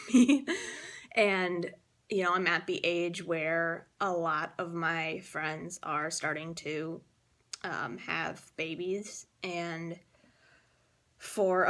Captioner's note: laughs